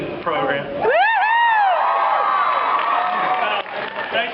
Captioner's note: cheers